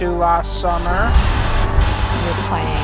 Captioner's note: steam explosions, music intensifies